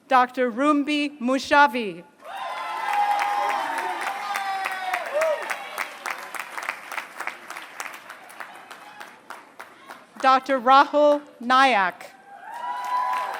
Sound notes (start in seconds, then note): 2.3 applause; 12.5 applause